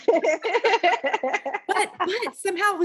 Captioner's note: laughing